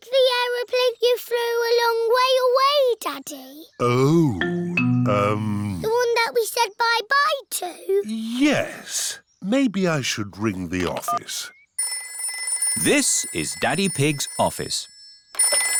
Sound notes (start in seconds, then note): 11.8 phone rings